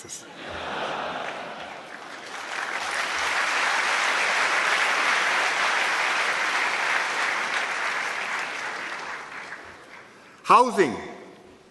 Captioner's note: laughter and applause